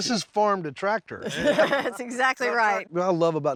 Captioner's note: everyone laughs